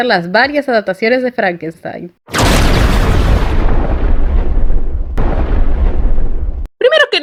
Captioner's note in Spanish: ruido de rayo